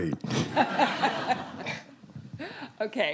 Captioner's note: students laughing; laughing